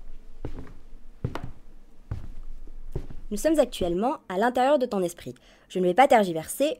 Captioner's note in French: Bruit de pas